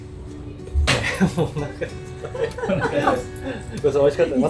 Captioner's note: laughs